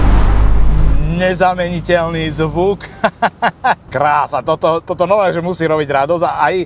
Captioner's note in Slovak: smiech